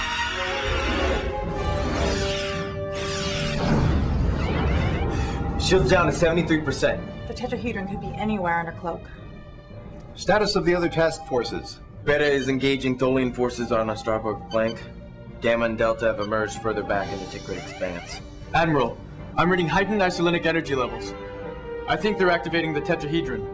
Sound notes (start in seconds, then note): 3.4 alarm; 3.5 explosion